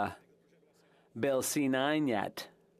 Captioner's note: speaking French